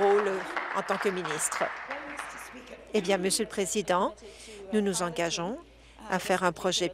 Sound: applause

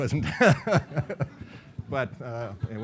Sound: laughing

